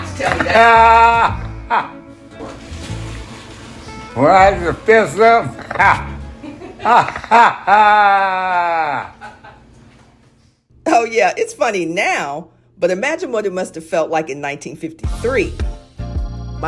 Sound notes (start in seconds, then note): 1.0 laughter; 6.3 laughter